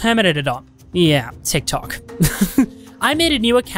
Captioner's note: laughs